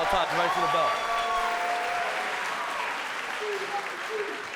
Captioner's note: crowd cheering